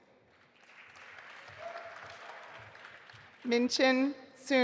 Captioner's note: audience applauding